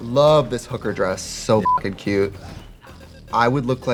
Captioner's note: beeping